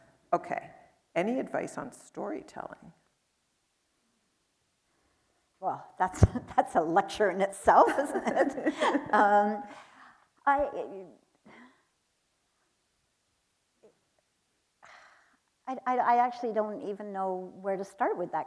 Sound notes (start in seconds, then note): 7.9 chuckles; 8.0 chuckling